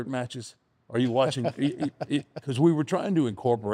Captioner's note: laughs